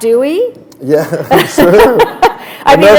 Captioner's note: laughter